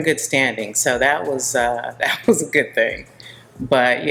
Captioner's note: chuckling